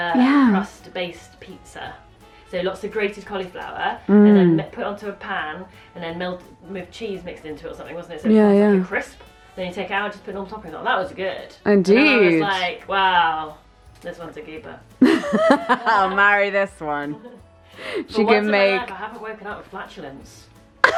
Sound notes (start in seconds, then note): 15.0 laughs; 20.8 both Laughs